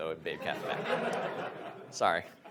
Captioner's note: audience laughs